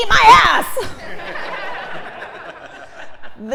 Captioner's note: laugh